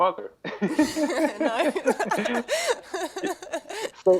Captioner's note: laugh